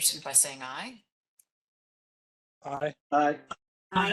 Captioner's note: chorus of ayes